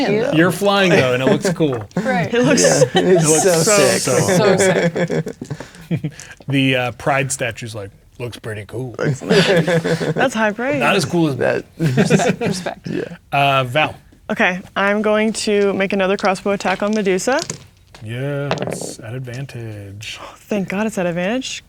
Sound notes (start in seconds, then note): 4.9 laughing; 5.6 chuckles; 9.0 players laughing; 18.4 dice rolling